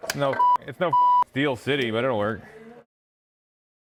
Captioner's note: beep